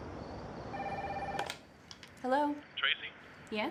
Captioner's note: phone ringing